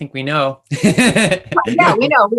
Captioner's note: laughs